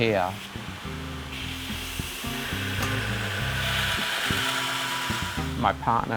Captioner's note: metallic grinding